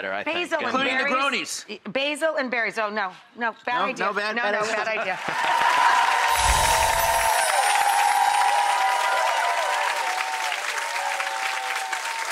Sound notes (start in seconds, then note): 5.1 audience applauds; 6.3 chiming